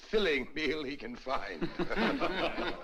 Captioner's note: guests Laugh